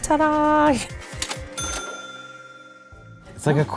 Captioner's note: cash register sounds